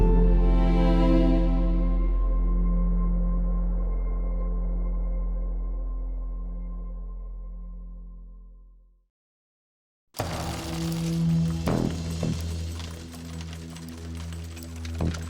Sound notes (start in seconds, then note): 10.3 coins rattling